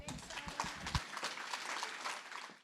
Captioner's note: applause